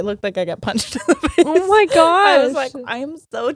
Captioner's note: laughing